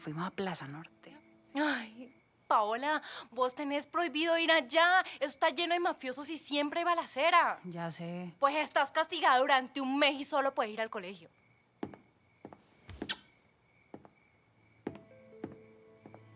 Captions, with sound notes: we went to “Plaza Norte”. You know that you are not allowed to go there, that place is full of gangsters and there are shootings all the time. I know. You're grounded for a month. You will only go to school. [kiss]